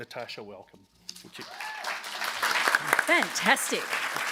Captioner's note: applause